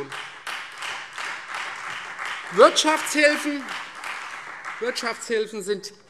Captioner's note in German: Beifall Freie Demokraten und SPD